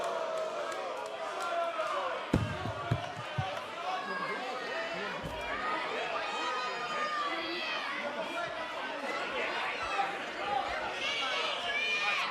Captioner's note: crowd response